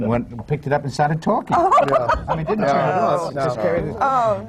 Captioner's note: laughter